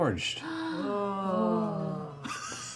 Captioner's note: deadpan